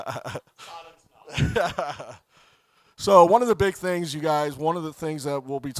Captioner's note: laughing